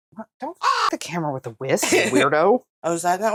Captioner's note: caw